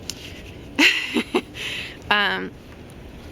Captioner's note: laughing